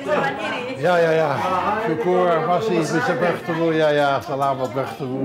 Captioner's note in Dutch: Ze groeten elkaar in het Indonesisch